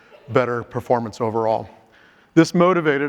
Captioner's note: group member coughs